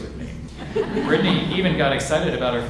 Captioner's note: audience laughs